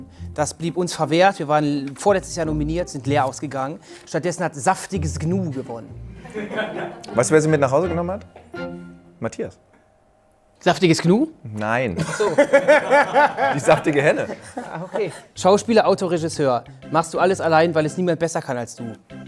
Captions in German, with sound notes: Das blieb uns verwehrt, wir waren vorletztes Jahr nominiert, sind leer ausgegangen. Stattdessen hat "Saftiges Gnu" gewonnen. (Lachen) Weißt du, wer sie mit nach Hause genommen hat? Matthias. Saftiges Gnu? - Nein. Ach so. (Lachen) Die saftige Henne. - Okay. Schauspieler, Autor, Regisseur, machst du alles, weil es niemand besser kann als du?